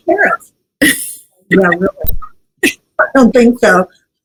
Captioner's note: laugh